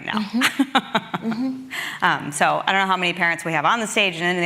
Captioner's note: laughs